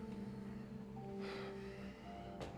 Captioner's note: Ben sighs; crickets chirping; tense music